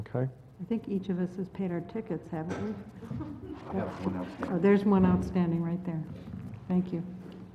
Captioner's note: laugh